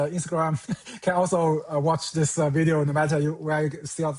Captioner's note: chuckles